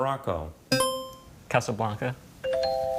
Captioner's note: buzzer chimes; tone chimes